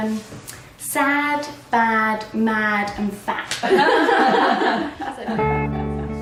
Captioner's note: laughter